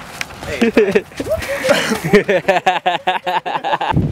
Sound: laughing

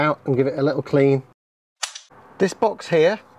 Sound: snap

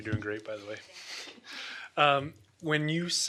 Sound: chuckles

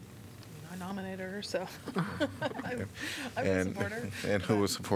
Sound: laughter

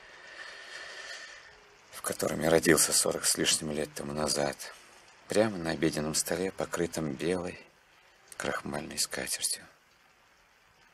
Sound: inhales

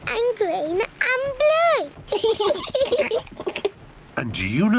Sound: both laugh

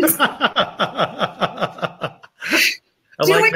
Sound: both laugh

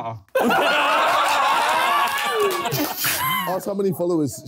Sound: laughing

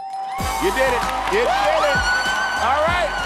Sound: bell dinging

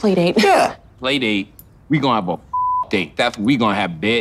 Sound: beep

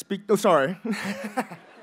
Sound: laughs

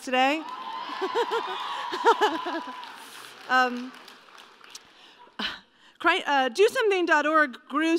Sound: laughter/Cheering and applause

